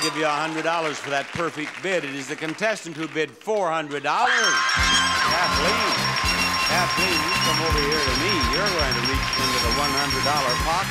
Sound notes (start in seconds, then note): 4.2 screaming